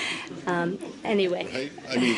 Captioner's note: laughter